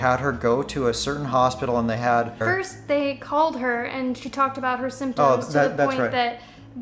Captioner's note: interjects